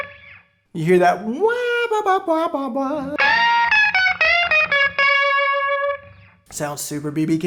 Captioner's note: vocal mimic